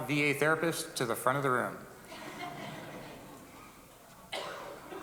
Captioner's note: audience laughs